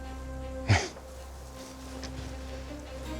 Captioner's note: jim snickers